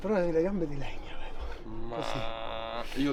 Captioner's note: exclamation